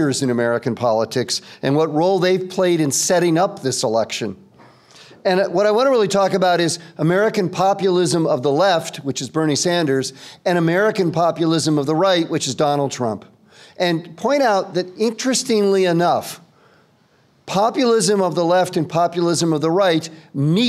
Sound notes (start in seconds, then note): none